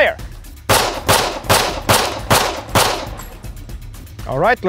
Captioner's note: pistol firing; suspenseful music